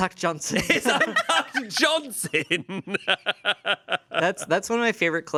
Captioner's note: laughs